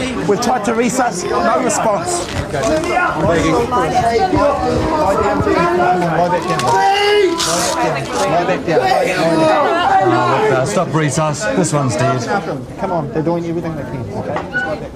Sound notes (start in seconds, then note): 2.3 clamoring, moaning